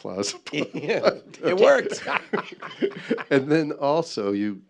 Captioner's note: laughs; guffaws